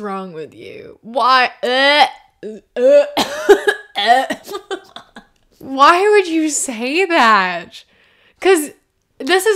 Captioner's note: laughter